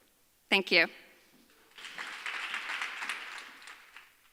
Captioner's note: audience applauds